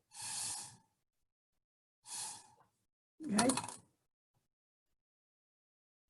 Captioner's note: blowing Through Straw